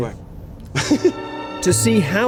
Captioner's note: laughter